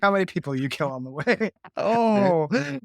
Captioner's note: laughter